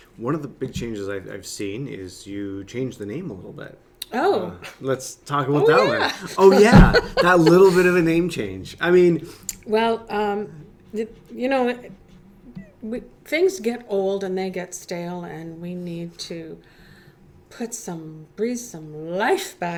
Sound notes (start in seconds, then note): 5.6 laughing